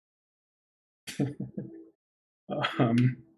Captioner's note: chuckles